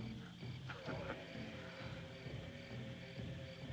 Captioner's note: chuckles